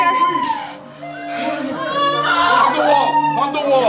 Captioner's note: students screaming